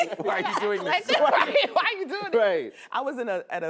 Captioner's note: laughs